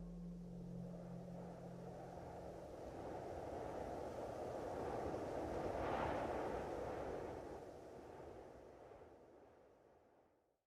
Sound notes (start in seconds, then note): 1.4 wind howling